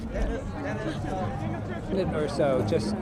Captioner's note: indistinct chatter